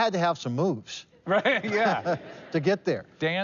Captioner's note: laughing